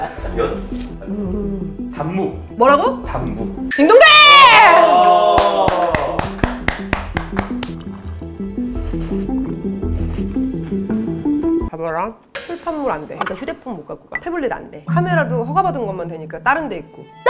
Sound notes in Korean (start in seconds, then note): 5.3 쏟아지는 박수갈채